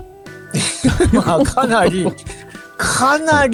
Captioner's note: laughs